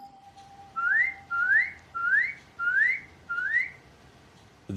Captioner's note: whistles